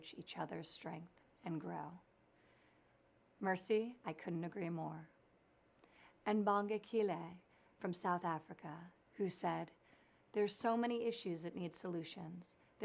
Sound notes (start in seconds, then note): none